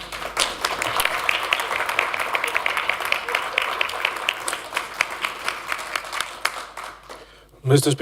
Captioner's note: applause